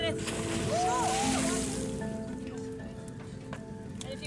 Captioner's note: water splashes